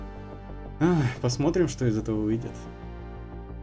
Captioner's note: sigh